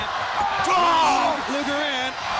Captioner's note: Hogan shouts